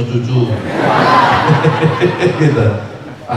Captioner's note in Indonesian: tertawa